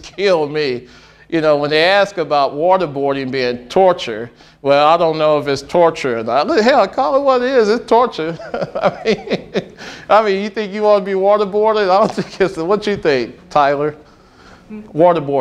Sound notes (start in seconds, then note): 8.2 laughing